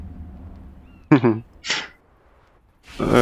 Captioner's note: muffled laugh